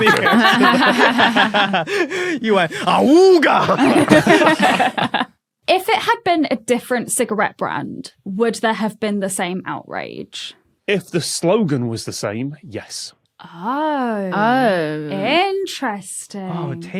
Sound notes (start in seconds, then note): 0.0 guests laughing; 4.1 group laughing